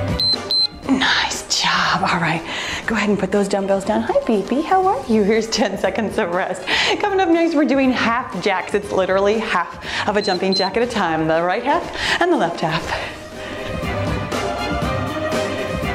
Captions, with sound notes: (timer beeps) Nice job, all right, go ahead and put those dumbbells down. Hi baby, how are you? Here's 10 seconds of rest. Coming up next, we're doing half jacks. It's literally half of a jumping jack at a time. (timer beeps) The right half and the left half. (cheerful music)